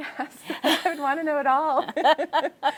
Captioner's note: both laughing